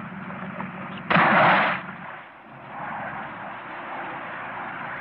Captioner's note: splashing